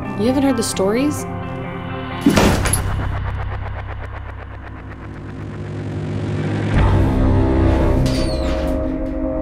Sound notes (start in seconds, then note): 2.2 attic thumps; 4.9 intense eerie music